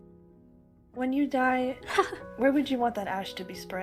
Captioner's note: ROSE laughs